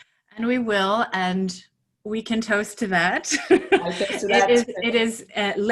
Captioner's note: laughing